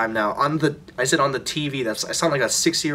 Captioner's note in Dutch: none